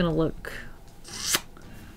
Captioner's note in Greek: σμουτς